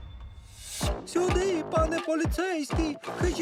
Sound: in cutesy voice; gasps

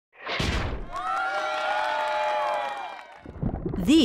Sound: sound of crowd cheering

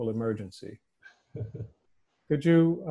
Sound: laughing

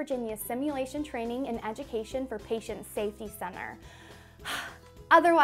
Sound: gasps

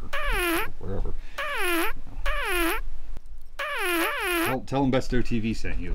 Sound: farting sound

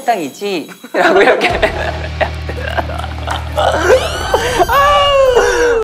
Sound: laughing at himself

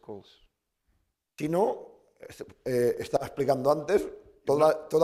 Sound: speaking spanish

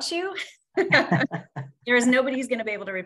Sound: laughing

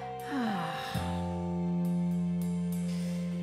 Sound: sighs

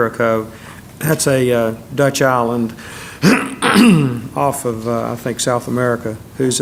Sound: cough

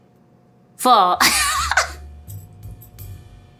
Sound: laughs

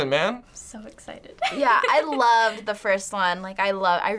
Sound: laughs

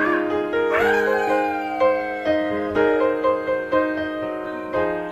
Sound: dad cheering

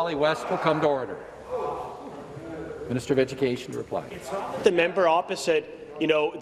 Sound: yelling

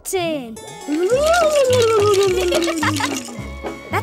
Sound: ghost noises

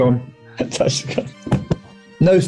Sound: laughing

